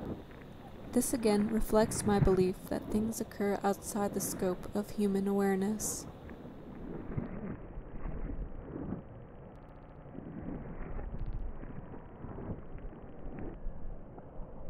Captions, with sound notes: This again reflects my belief that things occur outside the scope of human awareness. [wind blowing]